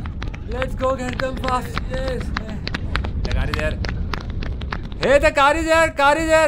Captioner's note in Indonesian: Suara berlari